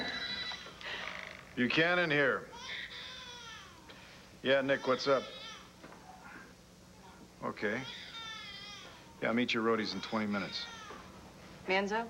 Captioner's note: telephone rings